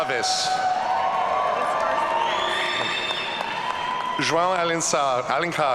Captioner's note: audience cheering